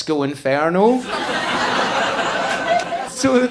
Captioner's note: audience laughing